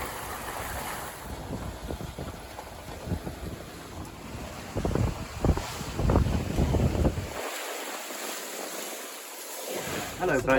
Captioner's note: water sound